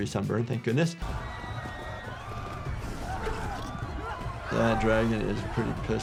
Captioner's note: people screaming